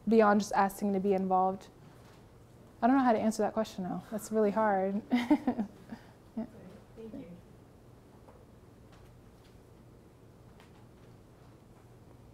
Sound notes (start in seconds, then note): 5.0 laughs